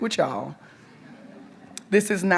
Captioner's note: audience members chuckle